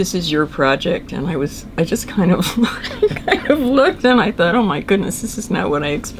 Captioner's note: laughs